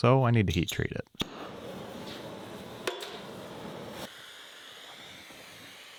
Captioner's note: blowtorch whooshing